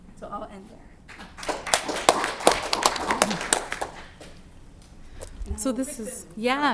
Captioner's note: applause